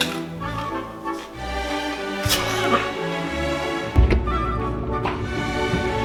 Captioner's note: crunching